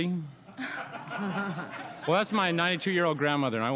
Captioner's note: laughter